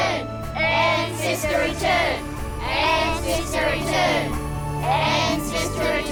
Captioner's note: chanting